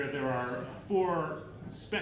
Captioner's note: none